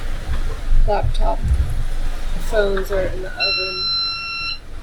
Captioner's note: beep